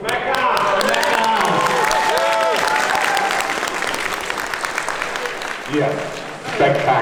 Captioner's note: audience claps